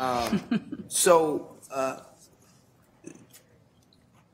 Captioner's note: laughter